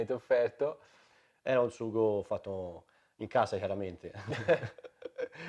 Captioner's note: laughter